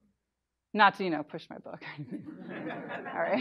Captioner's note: laughter